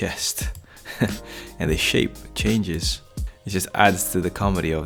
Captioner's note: laughs